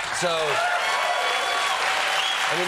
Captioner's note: applause